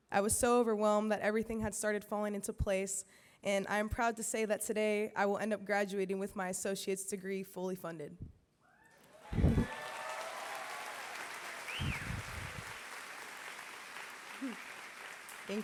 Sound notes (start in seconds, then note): 9.0 applause